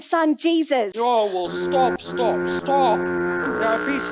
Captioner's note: honking